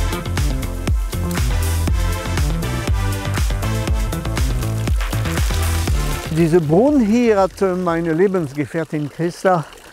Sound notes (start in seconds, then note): 3.2 splashing